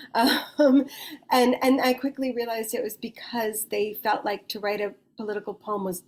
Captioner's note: chuckles